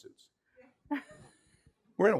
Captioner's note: laughing